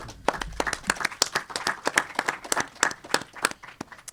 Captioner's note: audience applauding